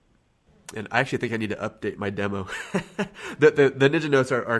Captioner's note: laughs